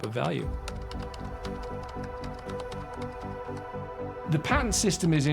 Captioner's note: keyboard typing; inspiring music